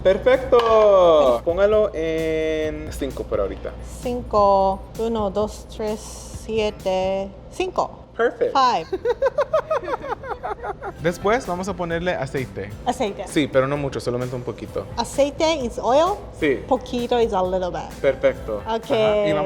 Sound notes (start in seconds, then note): 0.1 speaking Spanish; 4.0 speaking and counting in Spanish; 8.9 laughing; 11.1 speaking Spanish; 17.8 speaking Spanish